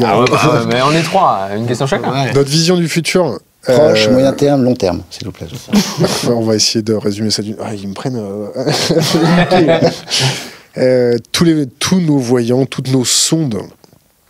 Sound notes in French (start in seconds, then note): 8.6 rires